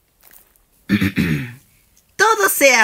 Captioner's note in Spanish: Se aclara la garganta